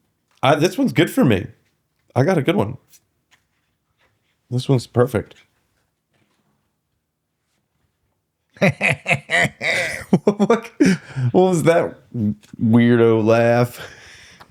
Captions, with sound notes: This one's good for me. I got a good one. This one's perfect. [LAUGH] What was that weirdo laugh?